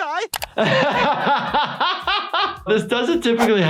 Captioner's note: laughs